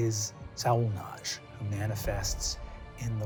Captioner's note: none